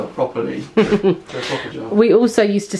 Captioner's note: laughs